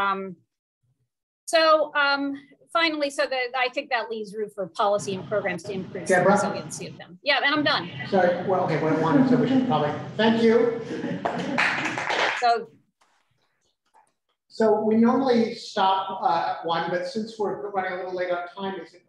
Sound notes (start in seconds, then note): 11.2 applause